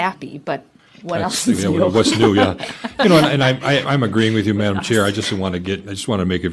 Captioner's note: laughter